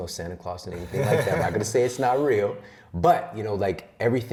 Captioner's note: laughs